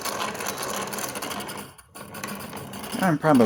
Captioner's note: grinder sound